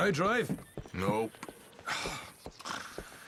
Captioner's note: Sean sighs frustrated